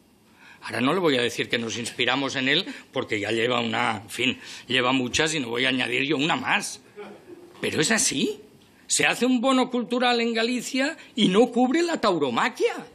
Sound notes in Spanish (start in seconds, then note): 7.0 Risas